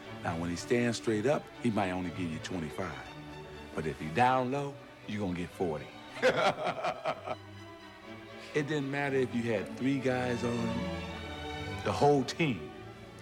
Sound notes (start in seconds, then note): 9.5 laughs